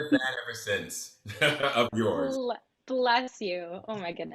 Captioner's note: laughs